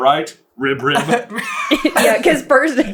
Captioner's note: laughter